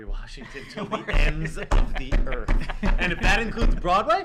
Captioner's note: laughter